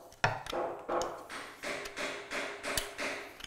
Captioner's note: distant hammering